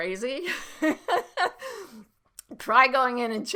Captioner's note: laughing